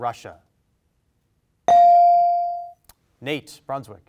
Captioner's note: bell rings